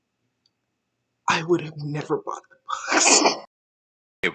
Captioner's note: laugh